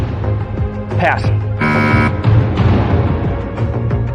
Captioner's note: buzzer sounds